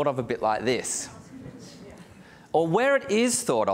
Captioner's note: audience chatters